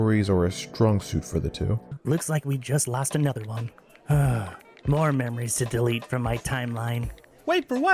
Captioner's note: sighs